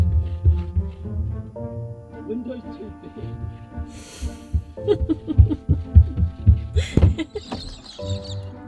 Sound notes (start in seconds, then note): 4.6 laughing